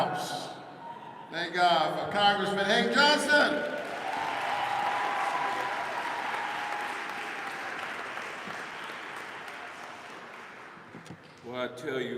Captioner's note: applause